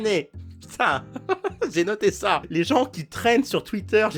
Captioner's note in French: rire